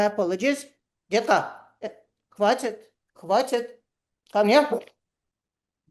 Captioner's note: speaks Russian